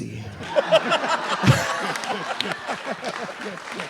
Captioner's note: RuPaul laughs; audience applauding